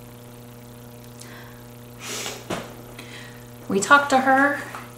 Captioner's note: sniffing